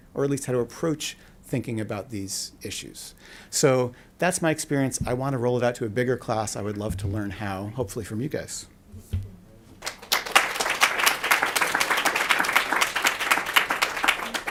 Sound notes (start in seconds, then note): 9.8 applause